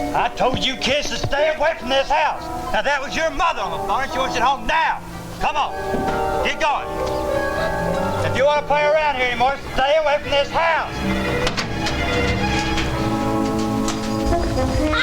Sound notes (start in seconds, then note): 6.8 dramatic music; 11.4 dramatic music; 12.2 bucket clanking; 13.1 dramatic music